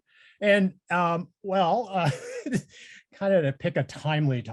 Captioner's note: laughs